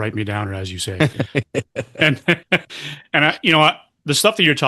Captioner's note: laughter